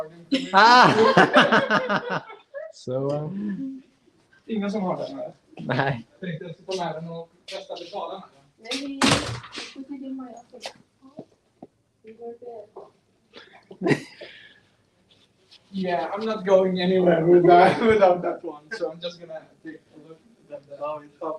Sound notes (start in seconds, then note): 0.6 laughter; 4.3 non-english speech